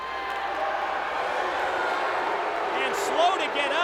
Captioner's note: audience jeering